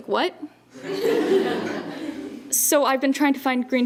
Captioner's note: laughter